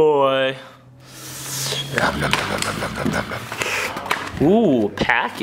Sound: Cookie monster eating sound

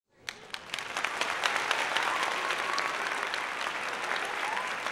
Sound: applause

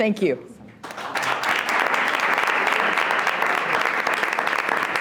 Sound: audience applauds

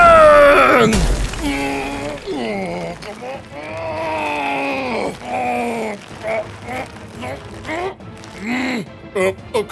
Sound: strength Strength Not Stronk Enough Noises

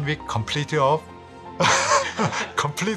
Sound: laughs

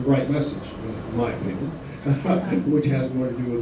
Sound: laughs

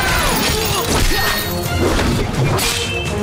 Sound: screaming; grunting

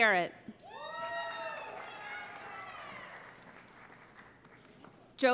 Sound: cheering

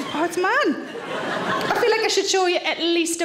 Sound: audience laughs

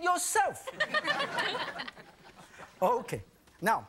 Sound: audience laughing

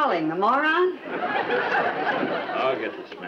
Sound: audience laughs

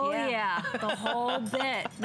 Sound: laughter

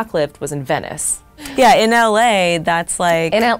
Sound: laughs

